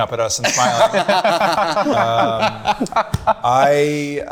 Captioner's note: group laughing